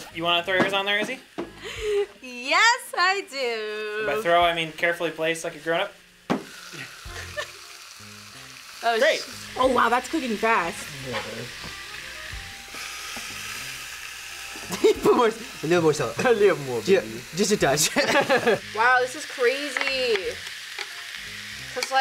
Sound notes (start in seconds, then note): 2.7 laughs; 12.0 iron sizzles; 14.7 laughs; 17.8 laughs